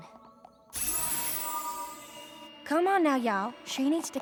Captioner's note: tinkling